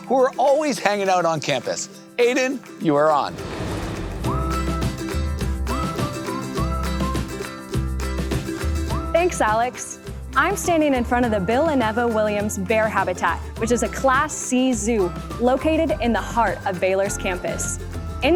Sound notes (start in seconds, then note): 4.1 melodic whistling